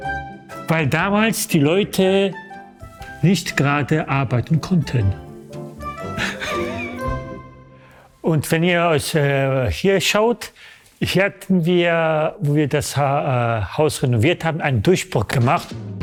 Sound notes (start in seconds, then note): 6.1 laughter